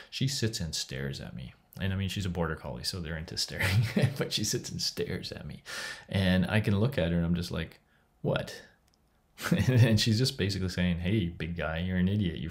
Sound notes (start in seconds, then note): 3.6 chuckles; 9.4 laughs